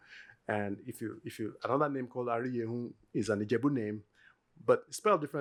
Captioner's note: yoruba; yoruba